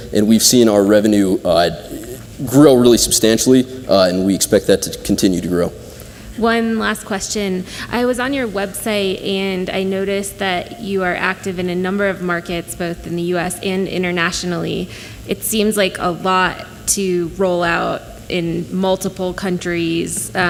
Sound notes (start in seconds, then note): none